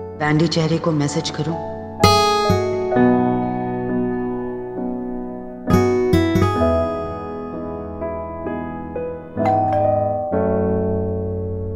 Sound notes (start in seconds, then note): 9.4 ringing doorbell